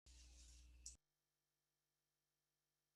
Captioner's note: silence